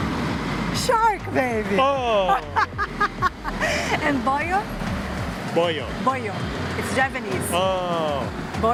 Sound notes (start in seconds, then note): 2.3 laughs